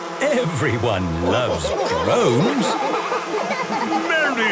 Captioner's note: laughter